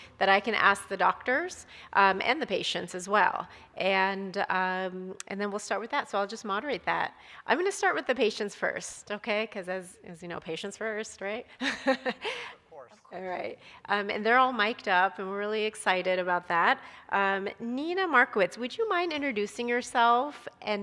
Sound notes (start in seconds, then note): 11.6 chuckles